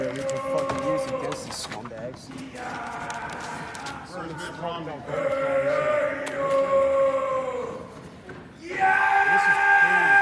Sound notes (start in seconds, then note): 3.7 man chanting and yelling